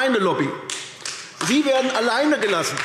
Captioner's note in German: Beifall AfD